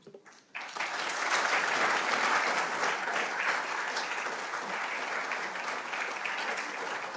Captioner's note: audience applauding